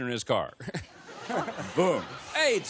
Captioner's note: laughter